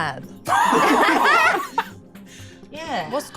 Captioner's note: laughs